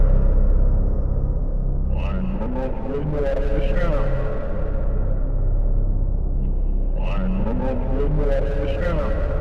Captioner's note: chants continue nonstop